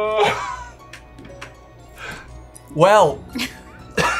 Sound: laughing

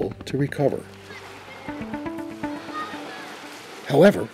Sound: children laughing

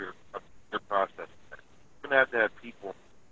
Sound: sound cuts out

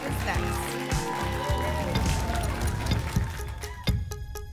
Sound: applause and cheering cont

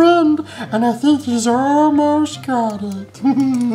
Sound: laughs

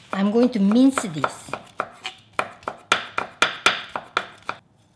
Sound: knife thudding

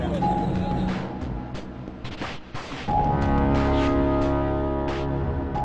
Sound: chatter

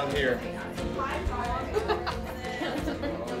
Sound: laughter

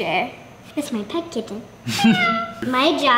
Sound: chuckling; meowing

